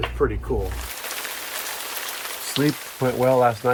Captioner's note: rain pattering